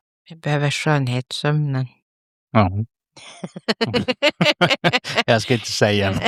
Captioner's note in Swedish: skratt